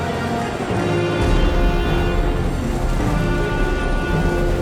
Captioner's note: tense music; booming; tense dramatic music